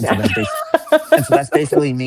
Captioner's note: laughs